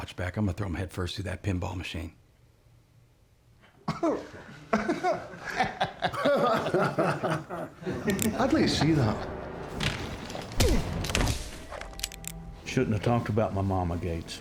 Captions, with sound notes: I'M GONNA THROW HIM HEAD FIRST THROUGH THAT PINBALL MACHINE. [EVERYBODY LAUGHS] [GUN CLICKS, SCOTTISH ACCENT] I'D LIKE TO SEE THAT. [THUDDING, GUNS CLICKING] YOU SHOULDN'T HAVE TALKED ABOUT MY MAMA, GATES.